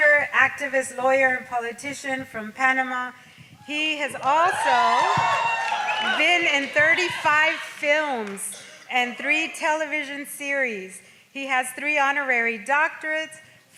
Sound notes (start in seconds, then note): 4.1 audience cheers